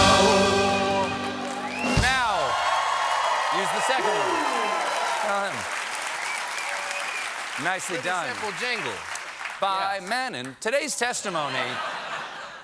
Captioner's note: cheers and applause